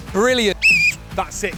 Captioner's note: whistle